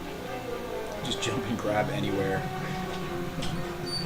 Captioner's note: chuckling